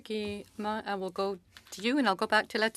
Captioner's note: speaking French